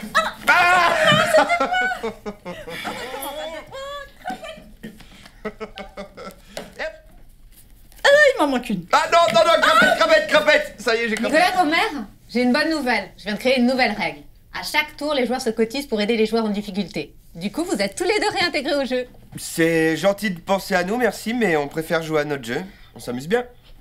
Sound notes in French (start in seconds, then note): 0.6 Rires; 3.8 Chuchote